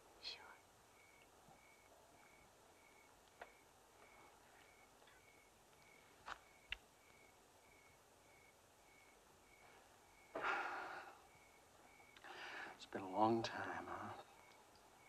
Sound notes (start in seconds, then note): 10.3 sighs